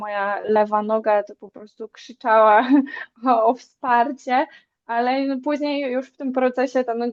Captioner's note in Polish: śmiech